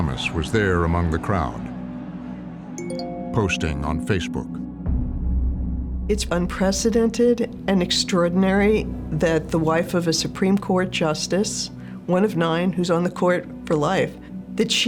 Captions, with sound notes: Ginni Thomas was there among the crowd... (phone chimes) ...posting on Facebook. >> It's unprecedented and extraordinary that the wife of a Supreme Court justice, one of nine, who's on the court for life,